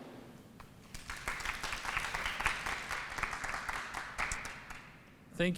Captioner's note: applause